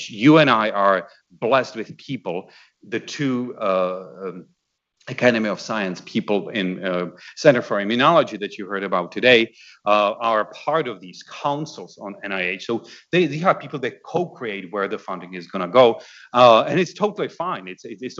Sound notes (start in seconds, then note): none